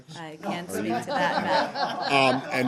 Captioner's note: laughter